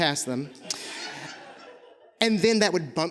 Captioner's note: audience laughing